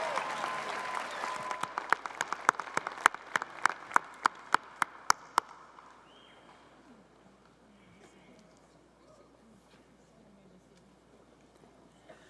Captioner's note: applause